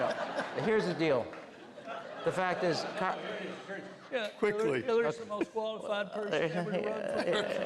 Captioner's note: doing bill clinton impression; laughter